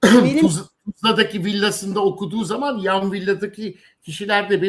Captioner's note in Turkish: boğazını temizler